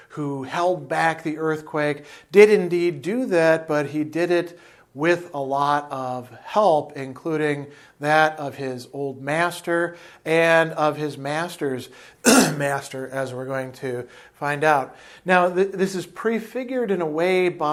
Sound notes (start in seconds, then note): 12.2 coughs